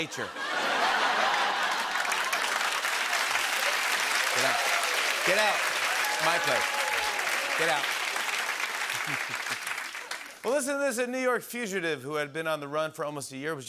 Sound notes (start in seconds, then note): 0.1 laughter and applause; 8.9 chuckles